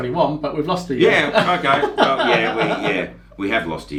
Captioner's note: laughs